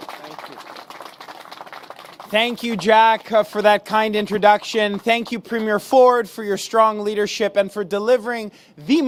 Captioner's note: applause